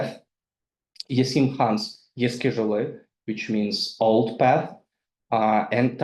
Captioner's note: speaks in foreign language